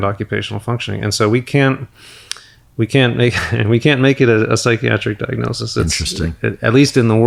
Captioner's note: chuckles